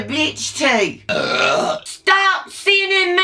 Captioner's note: burps